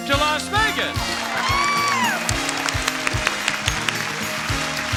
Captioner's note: audience applauding